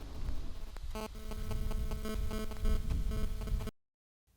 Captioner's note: vents continue hissing